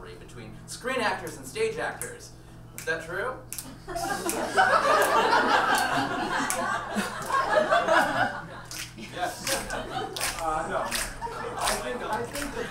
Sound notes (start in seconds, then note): 3.5 click fingers; 7.5 audience laughs